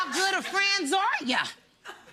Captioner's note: laughter